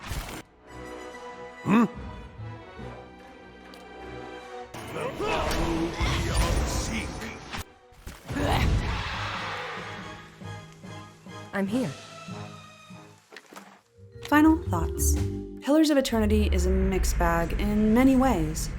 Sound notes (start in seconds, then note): 0.1 a ridiculous amount of battle sound effects; 0.2 tense orchestral music; 8.8 ghostly death shriek; 10.1 tense orchestral music; 13.3 wooden chest opening